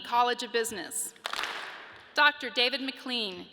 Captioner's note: audience claps